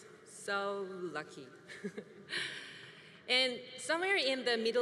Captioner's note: chuckles